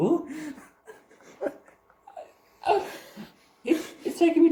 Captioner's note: Distressed TikTok Noises